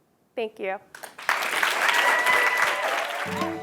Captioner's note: applause